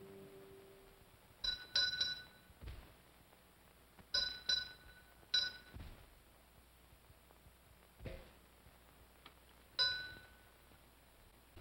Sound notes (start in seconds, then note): 1.4 bell rings slowly; 9.7 bell rings once